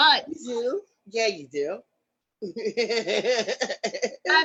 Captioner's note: laughs